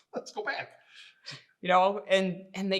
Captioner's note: laughing